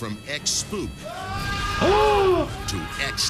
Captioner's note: man screams; flames roar